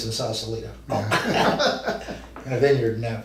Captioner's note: both men laugh